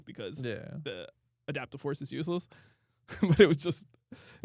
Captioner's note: laughs